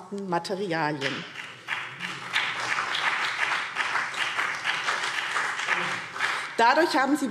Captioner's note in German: Beifall BÜNDNIS 90/DIE GRÜNEN und vereinzelt CDU